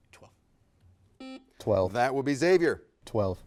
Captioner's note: buzzer beeps